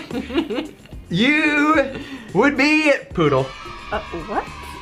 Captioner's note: kids cheering